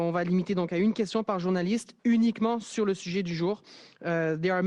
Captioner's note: speaks French